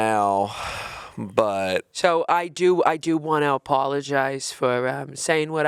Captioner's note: sighing